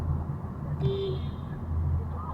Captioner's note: coming-up-behind-you-honk!